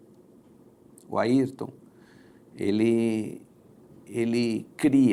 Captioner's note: Portuguese spoken audio